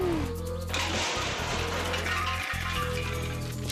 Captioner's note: crash